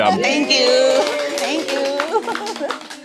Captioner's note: applauds